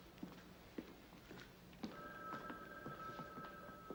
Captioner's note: telephone ringing